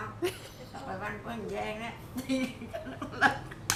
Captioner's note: laugh